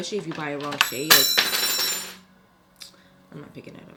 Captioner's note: bell ringing